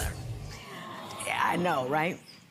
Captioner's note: audience awes